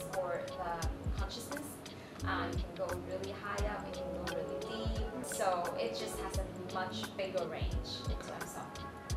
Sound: none

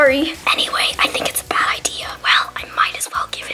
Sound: whispering

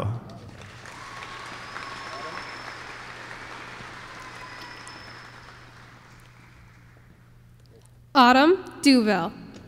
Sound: applause

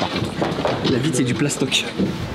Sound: knock knock

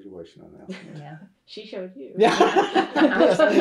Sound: laughter

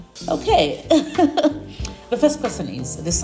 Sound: chuckles

